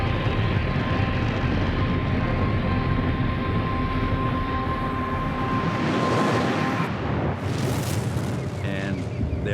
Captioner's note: engines roaring